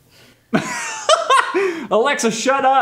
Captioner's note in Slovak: smiech